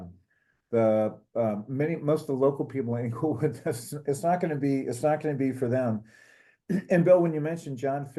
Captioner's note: laugh